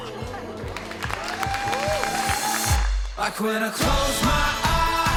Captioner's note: applause